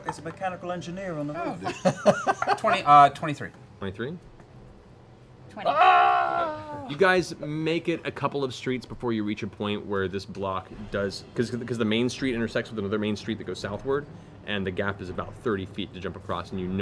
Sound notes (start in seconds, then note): 1.4 laughing; 5.6 screams